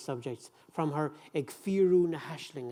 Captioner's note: speaking in foreign language